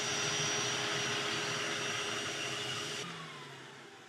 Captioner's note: vacuum suction